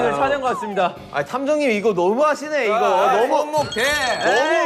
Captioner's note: frustrated